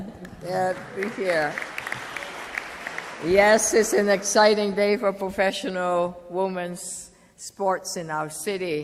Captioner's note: applause